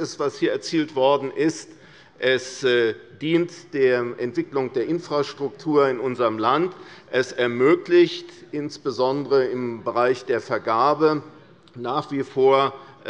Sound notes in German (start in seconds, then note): none